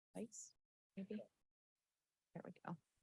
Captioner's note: talks faintly